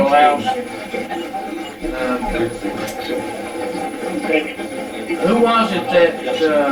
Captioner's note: static playback transmitting